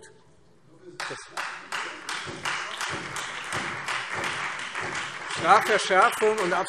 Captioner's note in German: Beifall